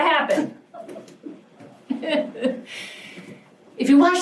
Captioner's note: laughs